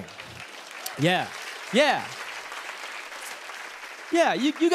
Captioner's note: applause